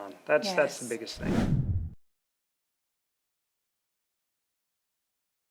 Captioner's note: image whooshing